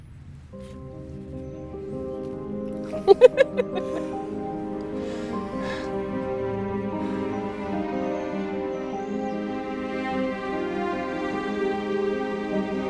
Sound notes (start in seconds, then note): 0.2 gentle music; 2.9 laughing; 7.0 sighs